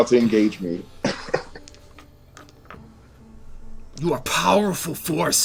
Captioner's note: laughter